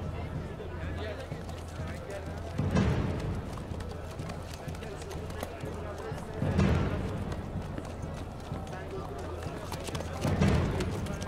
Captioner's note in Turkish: Nal sesleri